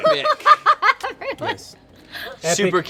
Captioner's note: laughs